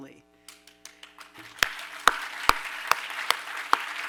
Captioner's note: applause